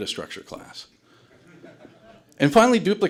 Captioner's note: audience laughter